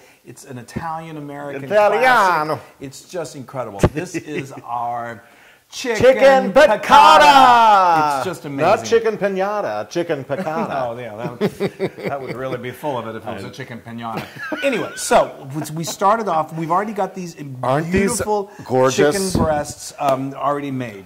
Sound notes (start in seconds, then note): 14.1 laugh